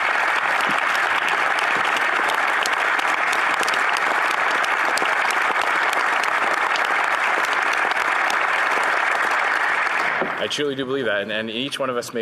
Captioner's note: applause